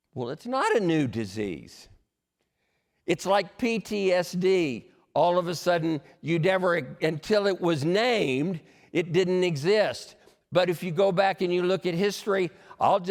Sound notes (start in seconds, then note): none